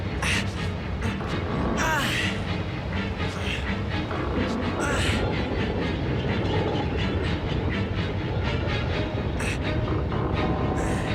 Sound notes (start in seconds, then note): 1.0 grunts; 1.6 strains